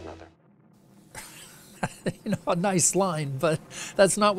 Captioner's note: laughs